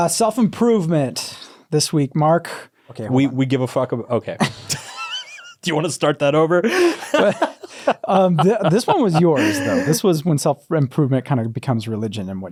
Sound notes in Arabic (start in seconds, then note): 6.6 يضحك